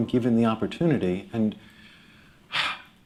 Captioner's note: sighs